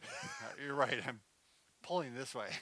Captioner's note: laughs